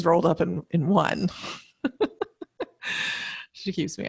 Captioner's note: laughs